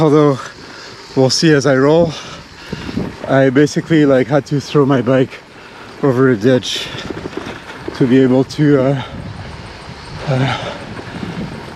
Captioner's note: cicadas sound